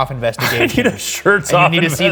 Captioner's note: chuckles